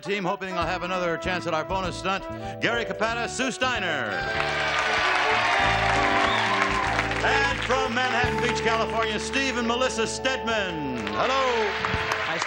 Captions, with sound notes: the red team hoping they'll have another chance at our opponent stunt, Gary Capata, Sue Stiener. -(applause) -And from Manhattan Beach, California, Steve and Melissa Stedman, hello!